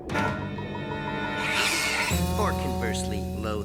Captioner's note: screech